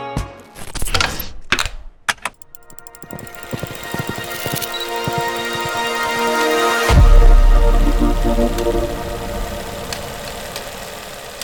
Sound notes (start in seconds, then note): 2.1 object clicking; 2.6 gentle dramatic music; 7.8 film projector ticking